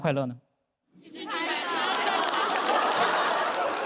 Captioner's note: keep clapping